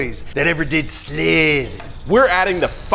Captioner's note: snake tail rattles